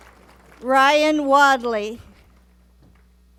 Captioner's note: applause